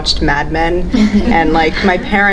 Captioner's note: audience laughs